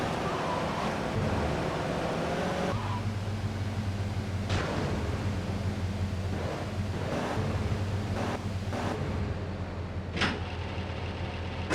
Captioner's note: sirens wailing